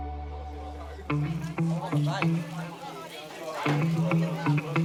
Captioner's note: quirky music; people chatter